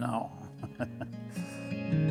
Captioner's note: laughs